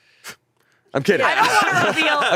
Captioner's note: laughing